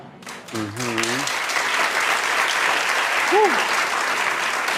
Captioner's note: audience clapping